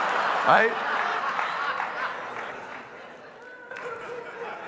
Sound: congregation laughing

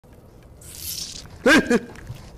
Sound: hissing sound

